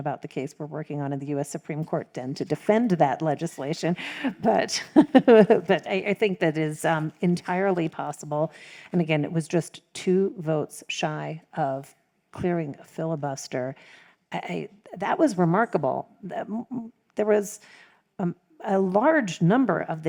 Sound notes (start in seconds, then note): 4.9 laughs